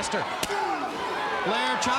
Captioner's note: chop striking